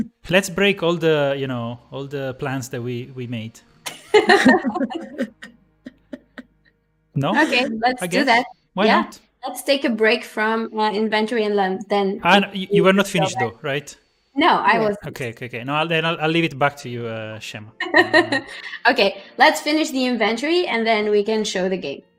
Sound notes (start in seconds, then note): 3.8 laughter